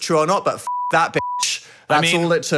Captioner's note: beeping